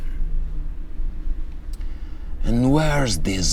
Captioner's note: car engine revving